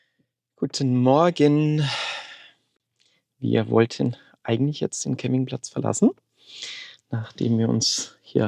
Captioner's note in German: seufzt